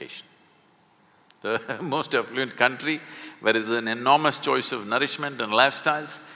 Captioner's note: laughs